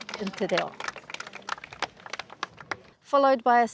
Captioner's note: applause